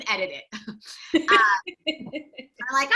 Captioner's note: laugh